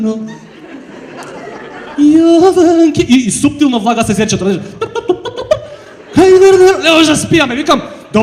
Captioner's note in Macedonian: смеа